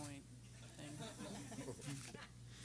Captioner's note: everyone laughing